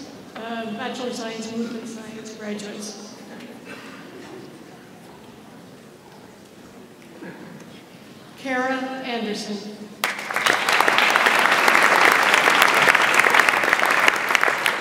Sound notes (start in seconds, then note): 10.0 audience applauds